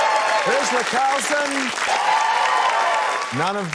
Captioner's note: cheering, applause